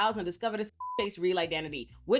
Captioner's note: beep